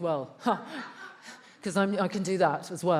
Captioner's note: attendees laughs